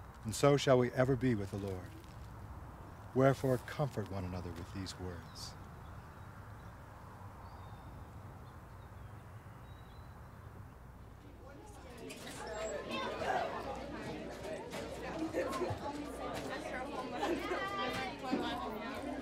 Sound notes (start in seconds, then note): 11.9 students speaking loudly